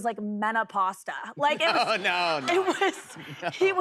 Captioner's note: laughing